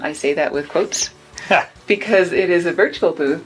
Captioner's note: laughing